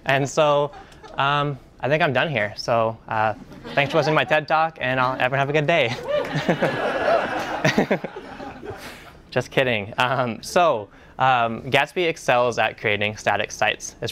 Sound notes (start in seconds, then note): 5.8 laughing